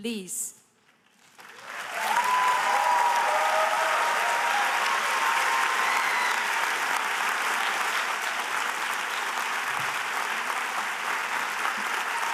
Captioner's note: applause